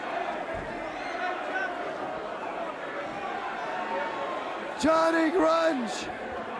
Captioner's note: crowd chatter